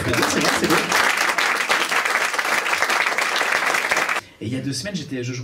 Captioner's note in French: applaus